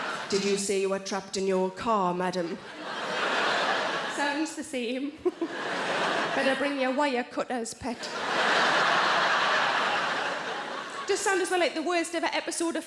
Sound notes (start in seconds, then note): 0.0 audience laughing; 2.6 audience laughing; 5.1 giggling; 8.0 audience laughing